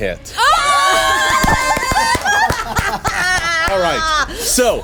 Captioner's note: everyone cheering